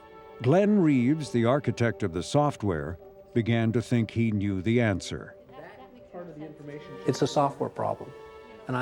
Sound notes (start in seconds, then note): 5.5 murmurs